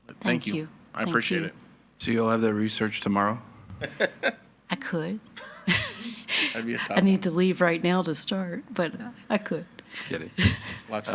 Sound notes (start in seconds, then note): 3.8 laughs